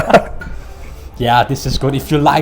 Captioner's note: both laughing